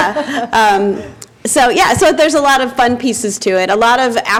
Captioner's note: laughter